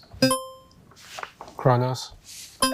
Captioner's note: buzzer ringing